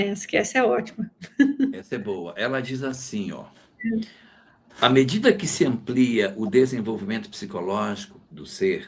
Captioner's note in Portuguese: risadas